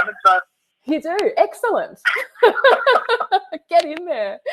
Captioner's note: laughs